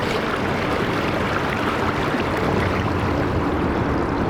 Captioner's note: water sounds